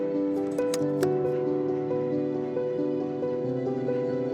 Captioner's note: slide clunking